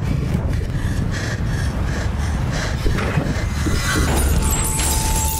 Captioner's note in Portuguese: respiração ofegante; som de batida de carro